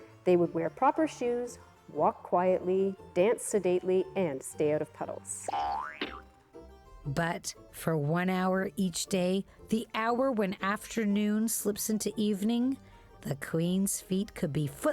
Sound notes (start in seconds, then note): 5.4 boinging